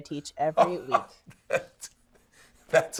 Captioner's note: laughs